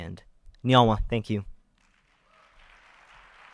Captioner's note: speaking in foreign language; audience applauding